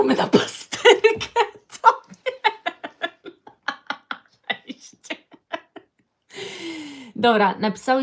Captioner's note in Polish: śmiech